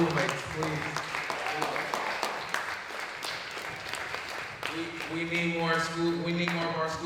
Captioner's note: applause